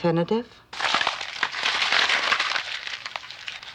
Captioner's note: crunching